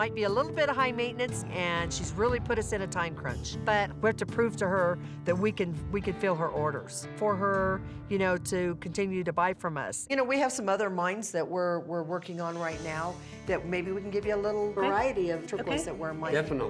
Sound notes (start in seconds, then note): none